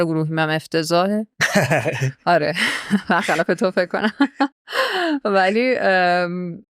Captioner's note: laughs